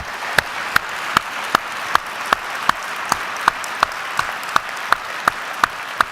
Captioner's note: applause